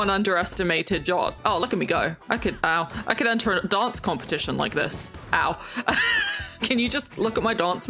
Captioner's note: laughs